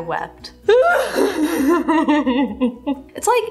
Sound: cries

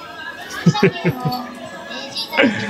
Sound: chuckles

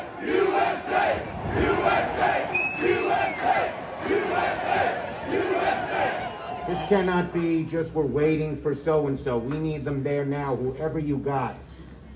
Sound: chanting; chanting u.s.a

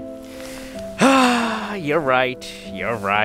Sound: sigh!

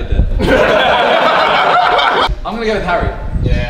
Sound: group laughs

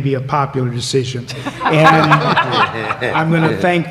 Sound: laughter

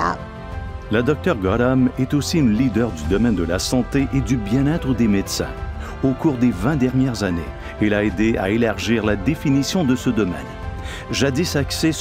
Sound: speaking french

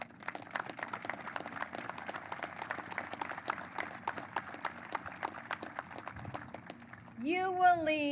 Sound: applause

